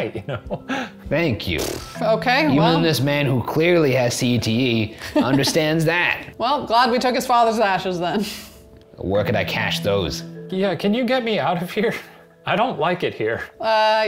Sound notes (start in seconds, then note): 0.1 laughing; 0.6 sighs